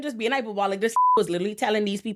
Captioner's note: beep